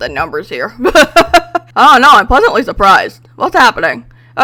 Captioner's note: laughs